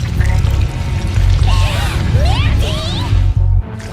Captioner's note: gasp